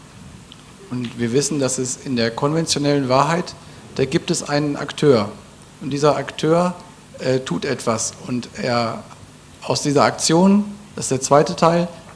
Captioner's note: German